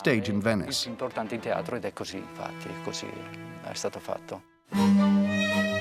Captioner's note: Italian spoken audio